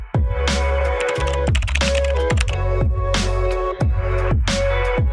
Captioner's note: chill music; keyboard keys clacking